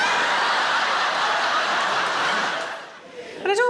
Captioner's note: audience laughs